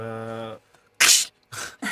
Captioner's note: claws sound